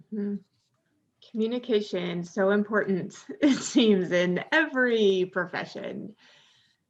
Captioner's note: chuckles